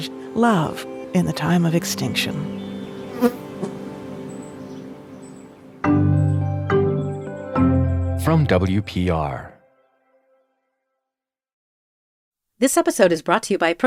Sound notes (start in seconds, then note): 2.5 bee buzzing; 5.5 light music